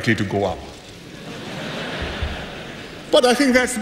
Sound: laughter

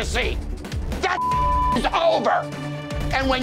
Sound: beeping

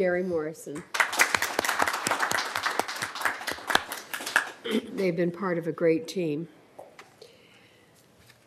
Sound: applause

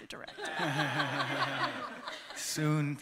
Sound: laughter

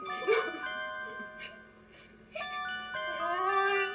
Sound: Ethel cries

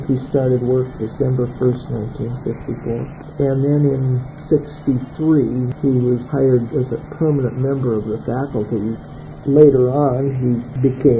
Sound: archival audio

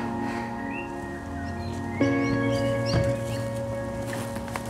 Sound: birds chirp

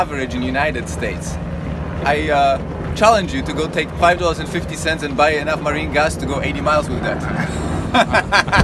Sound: laughter

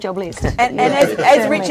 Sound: laughing

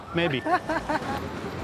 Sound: laughs

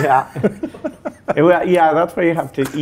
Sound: laughing

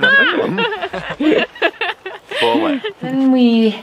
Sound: laughter

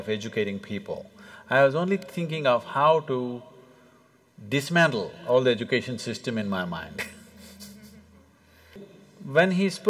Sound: laughs

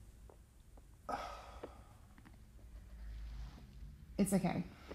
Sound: sighs

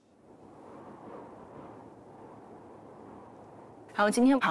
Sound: silence again

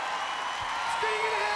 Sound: cheers and applause

